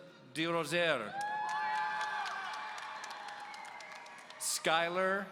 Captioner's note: audience cheering